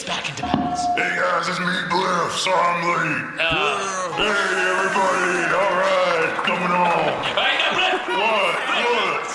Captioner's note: taps mic; audience cheers